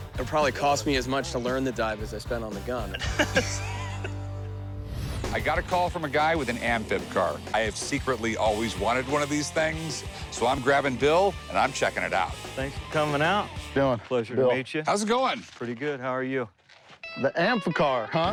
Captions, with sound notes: - It will probably cost me as much to learn to dive as I spent on the gun. [laughter] I GOT A CALL FROM A GUY WITH AN AMPHIB CAR. I HAVE SECRETLY ALWAYS WANTED ONE OF THESE THINGS. SO I'M GRABBING BILL AND I'M CHECKING IT OUT. - THANKS FOR COMING OUT. - HOW'S IT GOING? - PLEASURE TO MEET YOU. - BILL. - HOW'S IT GOING? - PRETTY GOOD, HOW ARE YOU? - THE AMPHICAR, HUH?